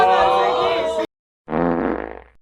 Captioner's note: fart noise